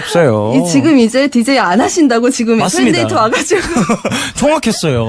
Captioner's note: laughs